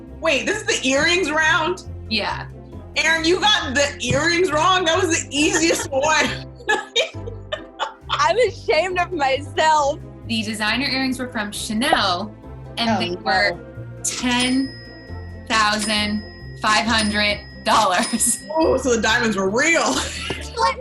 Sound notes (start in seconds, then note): 6.7 laughs